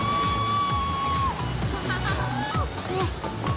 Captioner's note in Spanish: Gritos